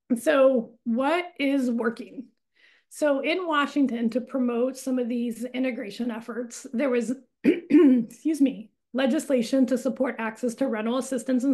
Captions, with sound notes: So what is working? So in Washington, to promote some of these integration efforts, there was (coughs), excuse me, legislation to support access to rental assistance